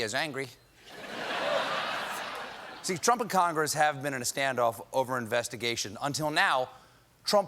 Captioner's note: laughter